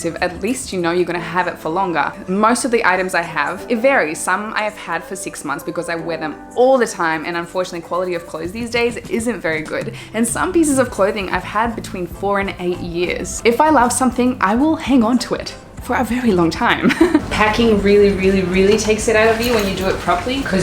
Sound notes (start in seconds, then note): 16.7 chuckles